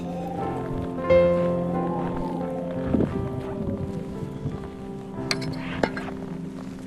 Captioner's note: Holly scoffs; wind whistling